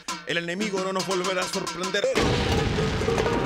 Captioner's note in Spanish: sonido de ataque